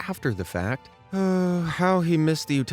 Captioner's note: sighs